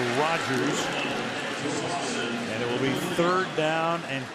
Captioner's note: pa announcement